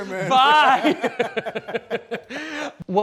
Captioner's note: laughing